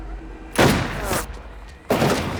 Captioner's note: firing